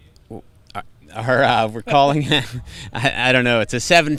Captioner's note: laughs